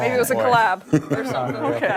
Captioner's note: laughter